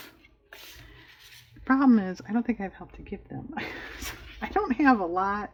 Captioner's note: laughs